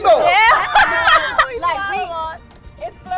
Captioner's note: laughter